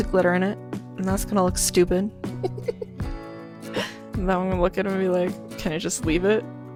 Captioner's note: giggles